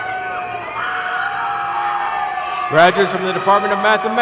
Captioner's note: audience cheers